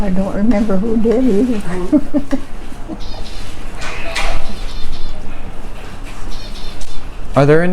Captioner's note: chuckles